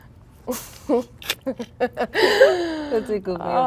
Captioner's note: girls laughing